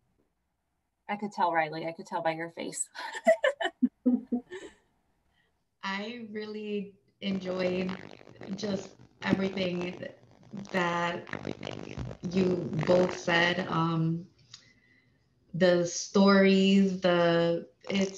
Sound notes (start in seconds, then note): 3.0 laughter